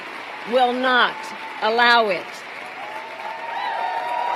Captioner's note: applause